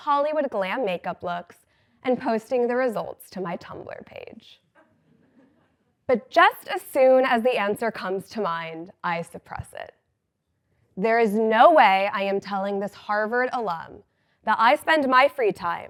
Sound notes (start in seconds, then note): 4.8 laugh